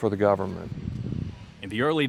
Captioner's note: wind blowing